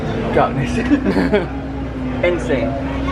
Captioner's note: both laugh